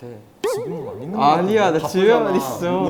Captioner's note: murmuring